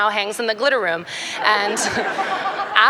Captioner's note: laughter